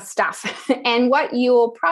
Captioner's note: laugh